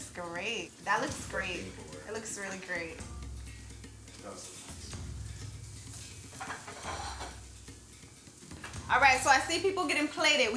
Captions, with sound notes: Oh that looks great. That looks great. That looks really great. (plates clanking) (food sizzling) All right, so I see people getting plated.